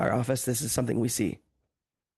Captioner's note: speaking French